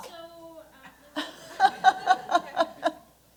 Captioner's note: laughter